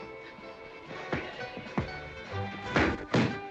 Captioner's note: pop; pop, pop, pow